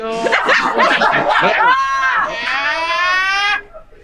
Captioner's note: group laughing